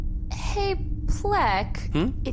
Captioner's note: sighs